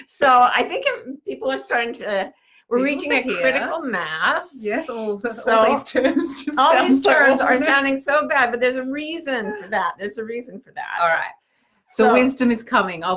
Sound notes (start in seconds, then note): 5.5 laughs